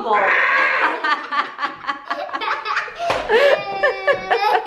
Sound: laughing

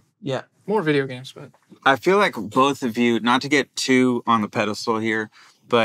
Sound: none

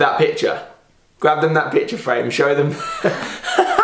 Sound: laughing

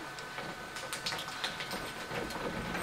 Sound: light applause

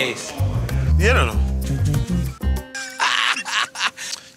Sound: imitates bass

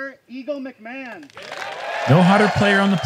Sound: applause

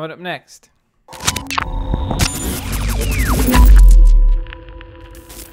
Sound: electronic tones

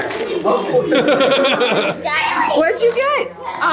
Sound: group chuckles and chatters; laughs

